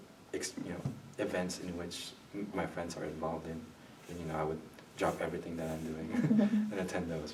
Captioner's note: laughs